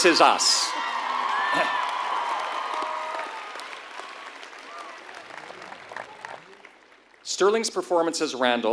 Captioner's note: applause